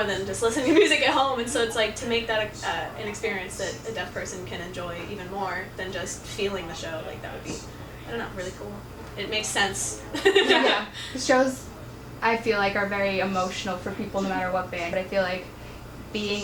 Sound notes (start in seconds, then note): 10.1 laughs